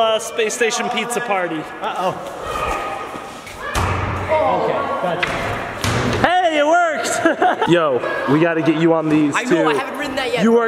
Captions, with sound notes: Spacestation pizza party. Hey, it works. (laughs) Yo, we gotta get you on these, too. - I know, I haven't ridden that yet.